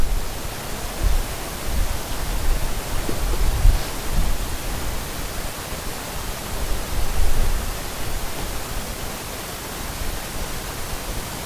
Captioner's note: sound of running water